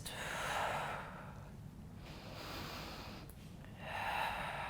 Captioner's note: breathing heavily